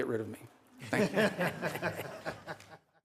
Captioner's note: laughter